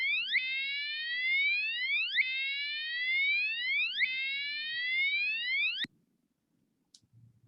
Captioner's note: alarm sound